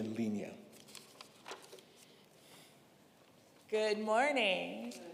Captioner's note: paper rustling